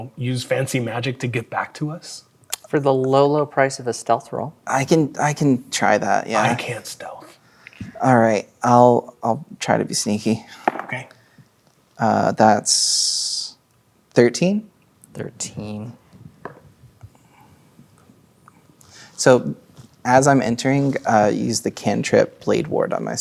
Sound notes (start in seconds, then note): 10.6 dice rolling